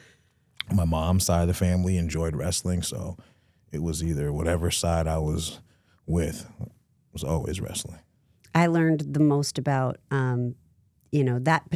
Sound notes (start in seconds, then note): none